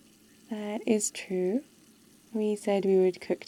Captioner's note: tap water running